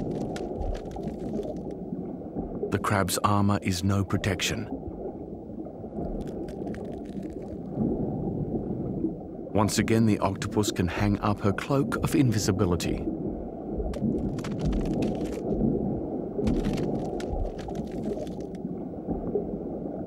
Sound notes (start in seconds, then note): 0.0 crunching continues; 6.2 crunching continues; 14.0 crunching continues